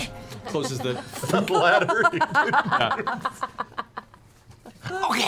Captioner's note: laughing